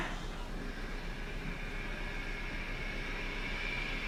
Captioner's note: whirring